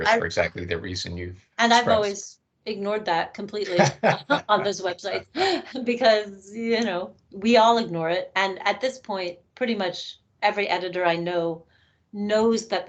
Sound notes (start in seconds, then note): 3.6 laughing